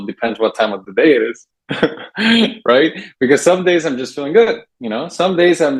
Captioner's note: laughs